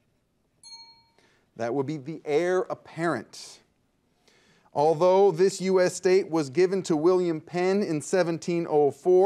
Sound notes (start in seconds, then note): 0.6 bell dings